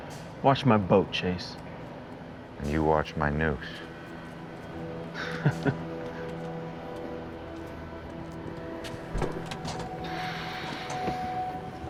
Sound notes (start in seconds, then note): 5.1 laughs